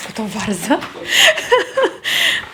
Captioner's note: laughing